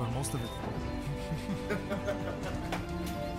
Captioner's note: both laughing